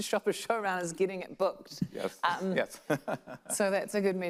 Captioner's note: laughs